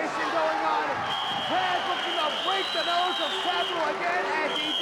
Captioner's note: whistling